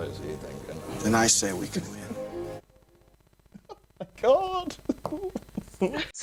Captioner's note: chuckles